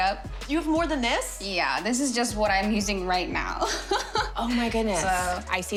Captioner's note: laughs